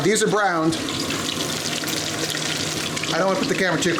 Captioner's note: oil splatters